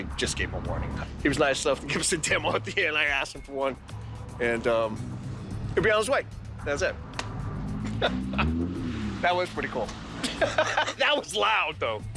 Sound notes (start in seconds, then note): 7.8 laughs; 10.2 laughs